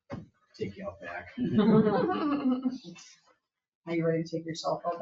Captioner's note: people chuckle